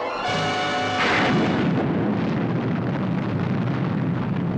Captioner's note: explosion booms